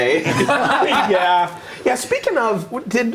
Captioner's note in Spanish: risas